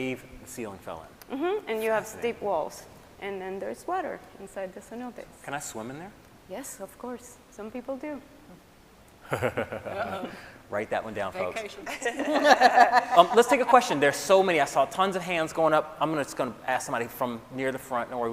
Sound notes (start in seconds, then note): 8.7 laughs; 11.8 scientists laughing